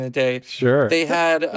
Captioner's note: laughs